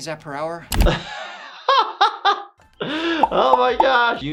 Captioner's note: laughing